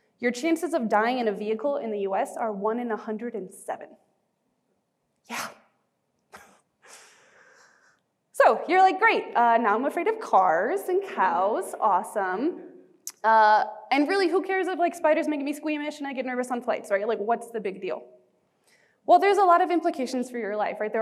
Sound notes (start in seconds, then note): 5.6 chuckling